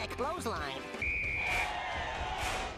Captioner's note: whistle blowing; audience cheering